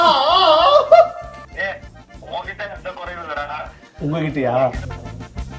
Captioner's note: speaking on call